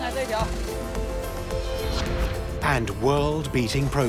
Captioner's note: speaking Tibetan